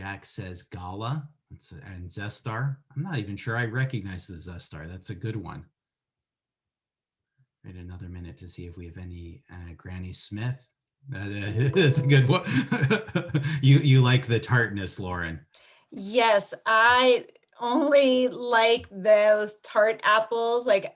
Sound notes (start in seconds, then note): 12.2 laughs